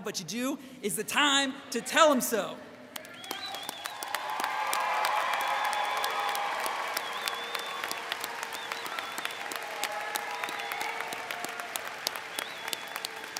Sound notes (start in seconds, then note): 5.3 audience cheers